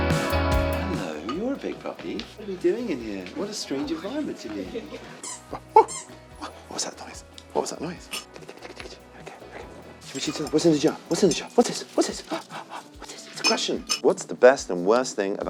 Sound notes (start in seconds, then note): 5.0 toys squeaking